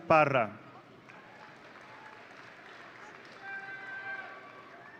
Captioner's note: audience cheering